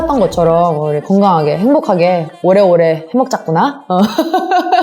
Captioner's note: laugh